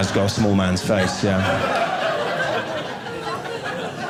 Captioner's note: audience laughing